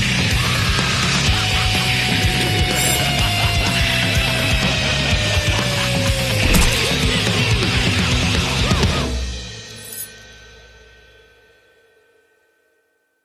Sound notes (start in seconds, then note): 0.0 laughs maniacally; 6.4 squelching stab